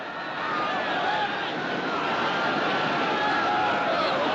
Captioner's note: Gritos, Gritos